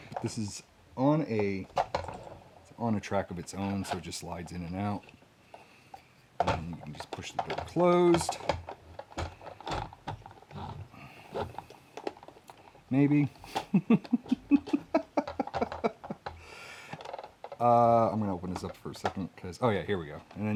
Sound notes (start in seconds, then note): 13.5 chuckles